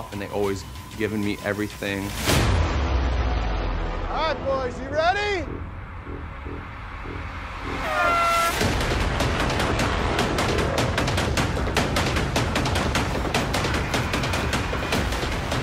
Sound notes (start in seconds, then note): 7.6 horn blows; 9.8 dramatic music